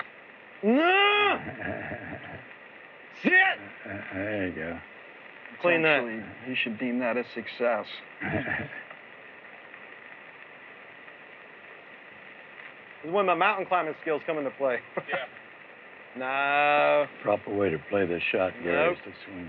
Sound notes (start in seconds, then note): 1.0 chuckles; 8.2 chuckles